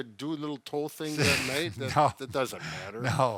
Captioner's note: chuckles